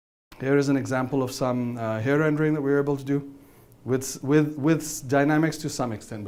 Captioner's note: none